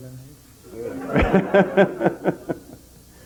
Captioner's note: general laughter